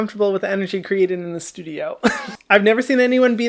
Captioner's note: laughs